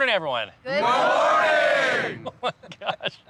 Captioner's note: laughs